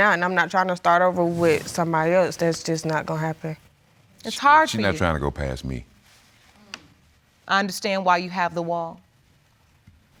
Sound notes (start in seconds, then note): none